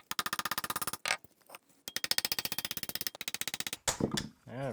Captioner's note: rapid tapping